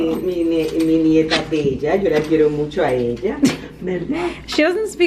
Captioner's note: Speaking lovingly to Harlow in Spanish